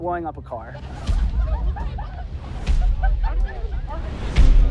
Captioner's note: scattered laughter; crowd chatter